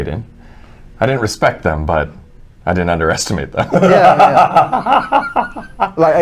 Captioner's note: laughs